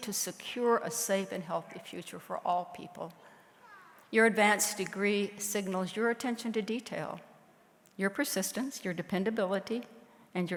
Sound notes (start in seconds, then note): none